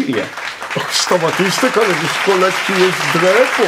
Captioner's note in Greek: χειροκροτήματα